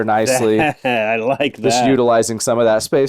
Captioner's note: laughs